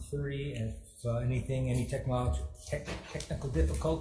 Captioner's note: none